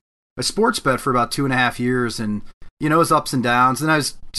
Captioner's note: none